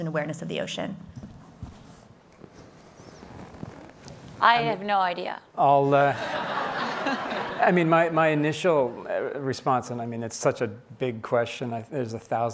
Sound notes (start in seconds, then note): 6.0 laughing